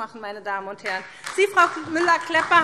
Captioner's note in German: Beifall SPD